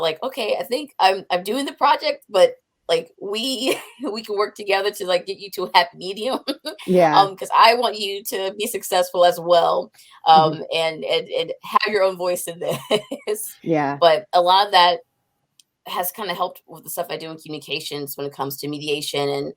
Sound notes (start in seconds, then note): 13.4 laughs